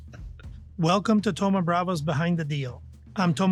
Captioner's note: laughs